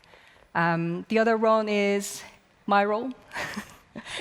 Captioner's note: laugh